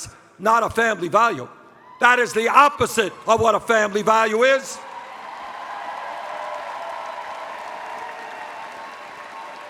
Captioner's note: cheers